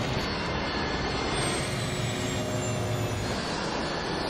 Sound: plane engine humming

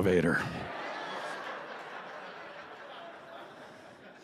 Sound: laughter

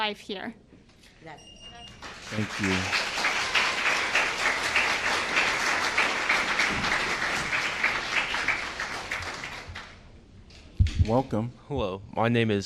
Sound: applause

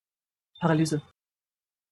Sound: fast Pronunciation

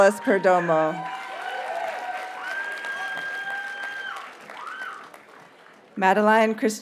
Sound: audience cheers and applauds

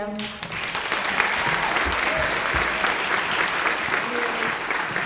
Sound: applause

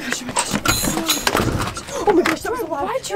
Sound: door slams

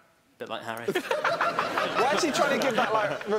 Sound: laughing

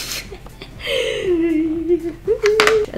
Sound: laughs; deep, nervous inhale

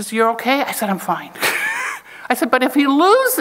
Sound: chuckles

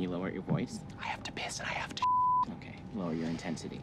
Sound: beep

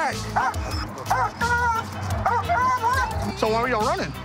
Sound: police dog barking

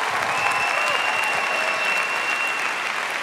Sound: applause

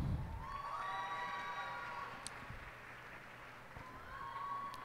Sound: cheers and applause

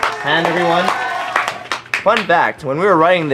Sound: claps

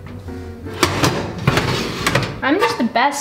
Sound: metal clanking

